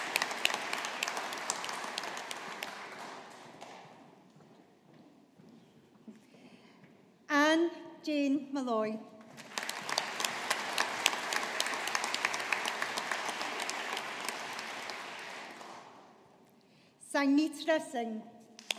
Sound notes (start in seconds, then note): 9.3 audience applauding